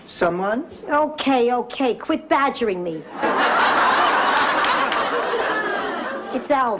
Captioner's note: laughs